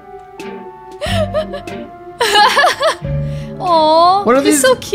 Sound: laughing

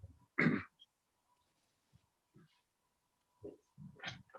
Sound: throat clearing

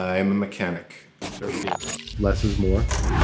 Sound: dinging; scratching; engine revs

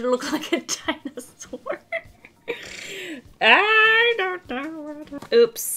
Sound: laughs

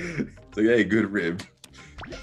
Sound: laugh

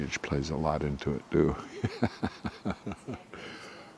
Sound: laughing

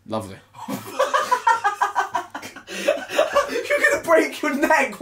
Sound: laughing

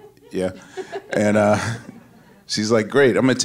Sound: laughs

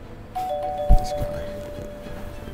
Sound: door bell ringing

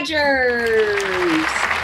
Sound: appaluse

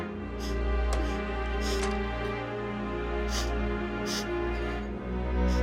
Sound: soft crying

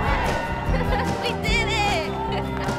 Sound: laughing

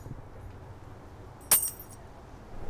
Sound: keys drop

